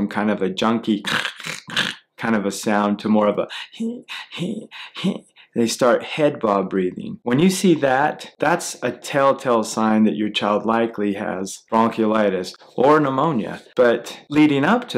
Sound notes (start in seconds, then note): 3.8 he he he he sound